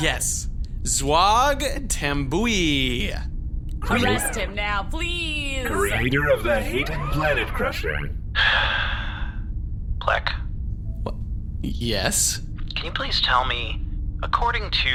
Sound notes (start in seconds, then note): 9.8 sighs